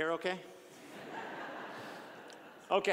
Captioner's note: audience laughing